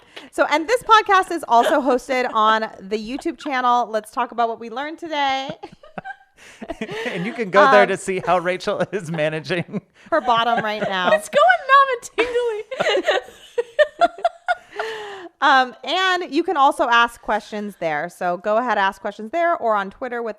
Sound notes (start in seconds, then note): 12.1 laughing